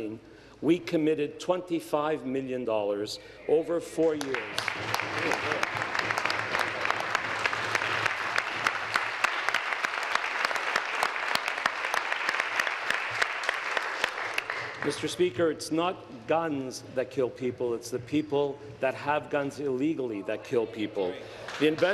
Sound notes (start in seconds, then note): 7.6 applause